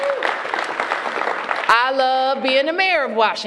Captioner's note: applause